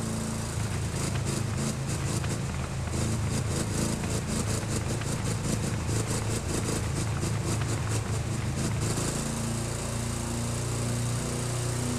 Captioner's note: enge running